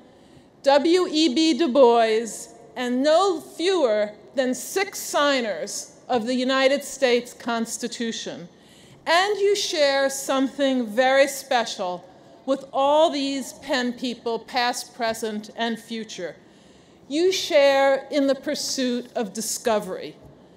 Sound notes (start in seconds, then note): none